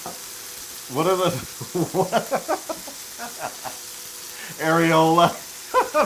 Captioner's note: laugh; laugh